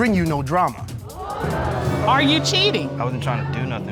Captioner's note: crowd gasping